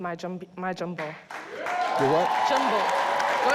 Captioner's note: audience cheers